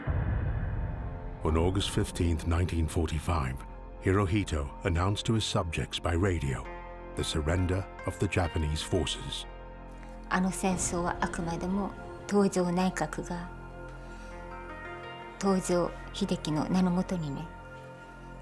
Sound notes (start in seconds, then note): 10.5 speaking in foreign language